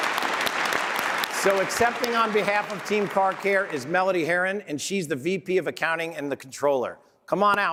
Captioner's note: applause